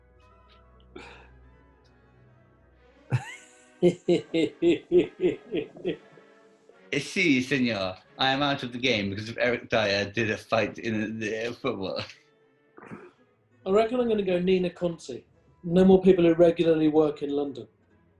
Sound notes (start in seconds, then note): 3.1 chuckling; 6.6 spanish accent